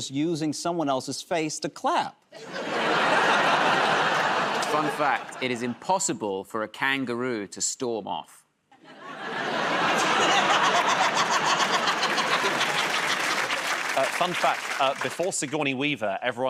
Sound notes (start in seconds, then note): 2.3 laughter; 10.4 laughter and applause